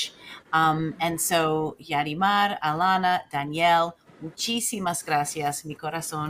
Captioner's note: speaks in foreign language